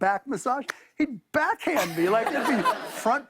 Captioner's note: laughter